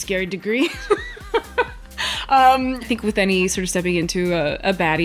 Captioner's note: laughs